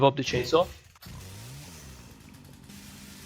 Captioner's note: revs up chainsaw; chainsaw noises